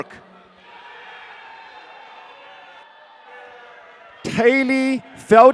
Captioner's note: audience cheering